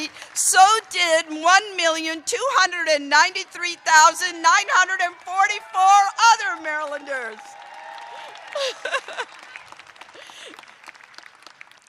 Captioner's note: applause